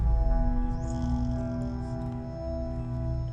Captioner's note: doc snoring